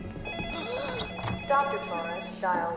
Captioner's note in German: Telefon klingeln